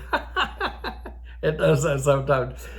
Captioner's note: old Man laughing